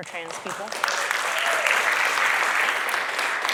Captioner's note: applause